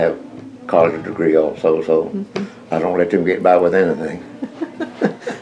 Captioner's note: laughter